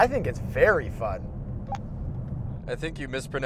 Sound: beep

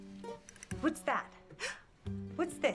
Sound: gasp

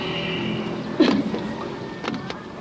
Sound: child coughing in background; bamboo creaking

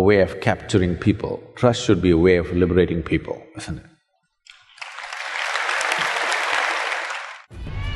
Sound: applause

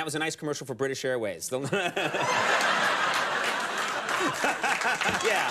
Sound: Conan and the audience laugh; laughs

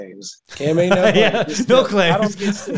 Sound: laughing

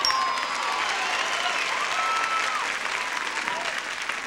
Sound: applause

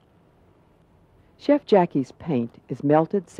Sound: voiceover

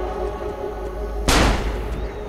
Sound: gunshot

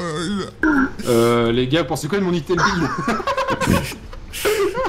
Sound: laughs

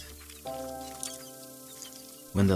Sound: mouse chirping

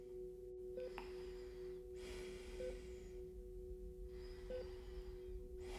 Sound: monitor beeping steadily

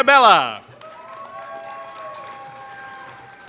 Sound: applause

